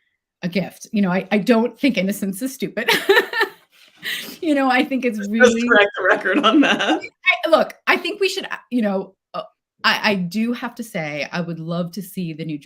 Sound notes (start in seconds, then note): 5.2 laughs